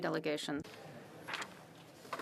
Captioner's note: speaking French